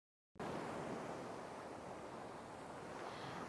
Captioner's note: waves crashing